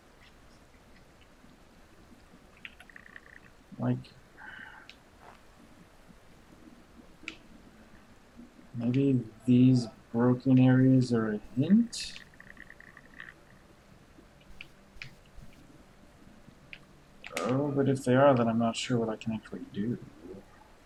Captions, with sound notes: Like... [sighs] Maybe these broken areas are a hint? Oh, but if they are, then I'm not sure what I can actually do.